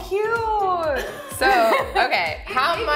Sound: laughs

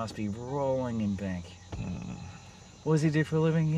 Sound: Mark groans

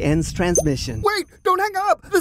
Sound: ping sound

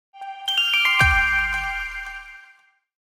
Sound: light chimes

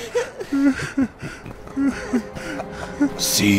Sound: laghing

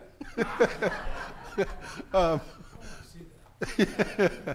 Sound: audience laughing

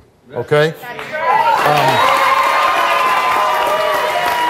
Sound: audience cheers

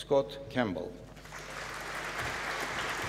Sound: applause

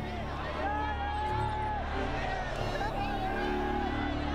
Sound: cheering

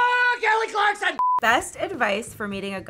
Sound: beep

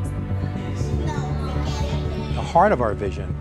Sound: chatter

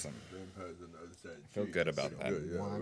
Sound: murmuring

